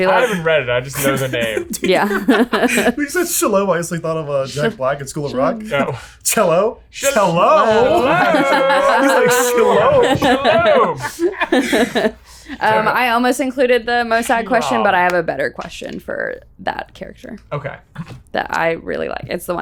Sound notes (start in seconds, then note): 9.1 all laughing